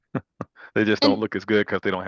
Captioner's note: laughs